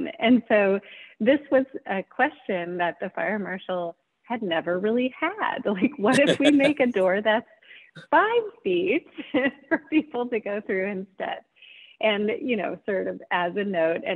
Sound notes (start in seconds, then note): 6.1 laughing; 9.1 chuckles